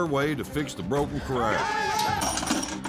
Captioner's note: cowboys shout encouragement; clanking sound